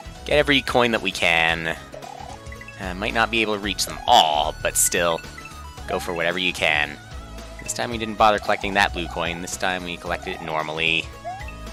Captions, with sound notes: Get every coin that we can. (*sigh*) Might not be able to reach them all, but still... ...go for whatever you can. This time we didn't bother collecting that blue coin. This time we collected it normally.